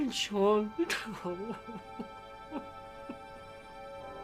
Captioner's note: sobbing